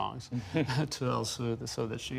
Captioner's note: laughter